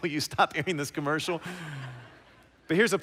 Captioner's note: laughter